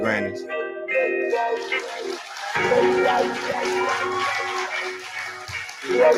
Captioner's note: cheering